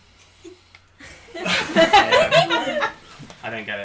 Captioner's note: sigh